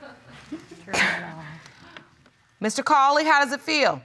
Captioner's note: scoffs